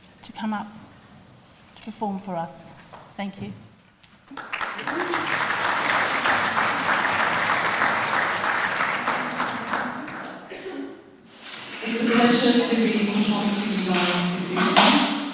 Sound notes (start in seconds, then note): 4.2 applause